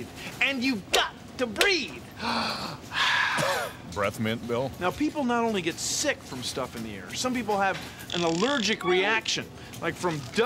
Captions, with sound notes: AND YOU'VE GOT TO BREATHE! [ COUGHS ] BREATH MINT, BILL? NOW, PEOPLE NOT ONLY GET SICK FROM STUFF IN THE AIR. SOME PEOPLE HAVE AN ALLERGIC REACTION --